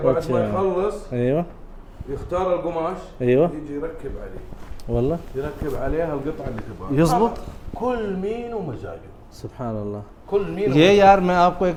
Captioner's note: Arabic